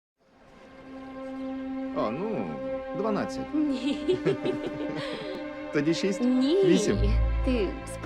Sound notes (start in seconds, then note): 0.0 heartfelt music playing; 3.7 woman laughs; 3.8 man laughs